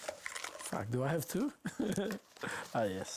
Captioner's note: laughs